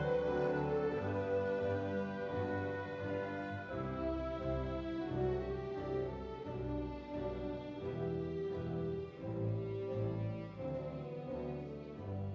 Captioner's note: applause